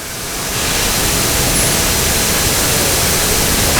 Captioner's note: engine revving